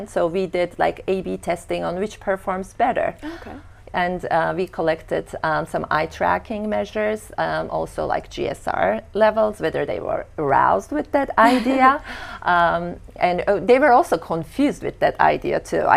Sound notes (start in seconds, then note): 12.0 laughing